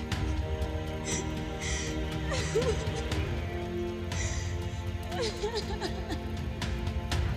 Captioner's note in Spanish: llora